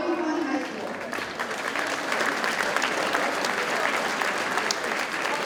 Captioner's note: audience cheers and applauds